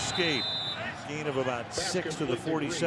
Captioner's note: whistle